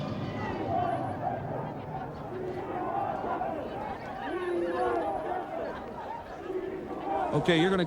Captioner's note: chanting